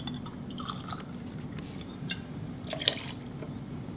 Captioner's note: liquid splashing